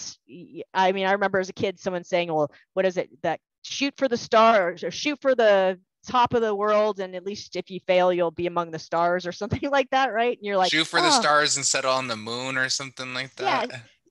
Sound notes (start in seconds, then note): 10.7 laughter